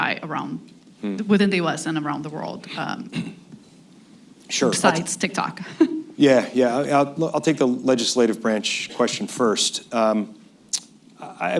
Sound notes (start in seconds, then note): 5.6 laughs